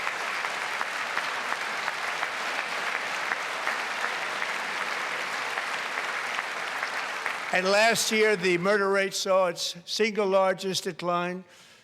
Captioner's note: applause